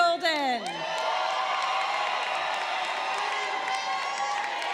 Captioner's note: crowd cheering